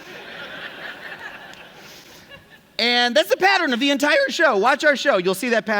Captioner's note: laughter